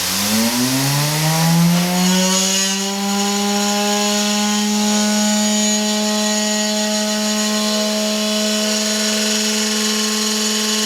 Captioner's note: vibration sound